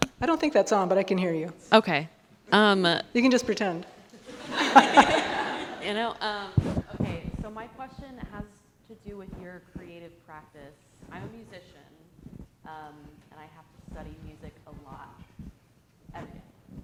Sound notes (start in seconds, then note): 4.1 all laughing